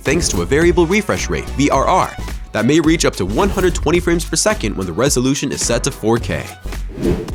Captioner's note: vrr